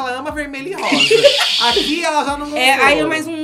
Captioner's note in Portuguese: risos